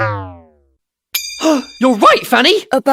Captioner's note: gasp